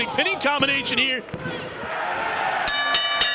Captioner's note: bell rings